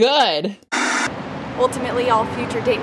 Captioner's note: static